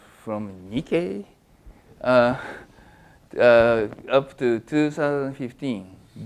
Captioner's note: laugh